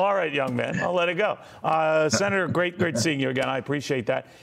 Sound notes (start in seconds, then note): 2.1 laughter